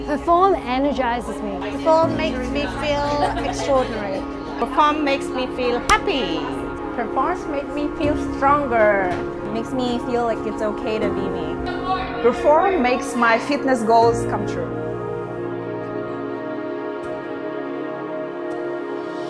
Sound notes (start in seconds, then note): 2.6 laughter; 5.8 hands clapping; 16.3 mellow music